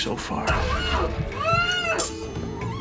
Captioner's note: muffled screaming